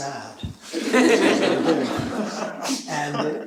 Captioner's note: laughter